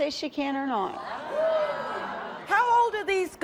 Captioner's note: murmuring